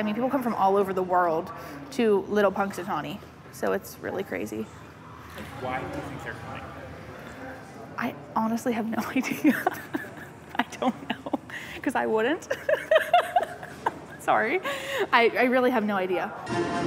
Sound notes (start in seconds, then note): 9.0 laughs; 12.4 laughing